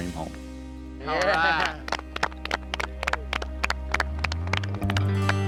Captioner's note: everyone clapping